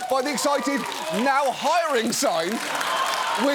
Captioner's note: cheering, applause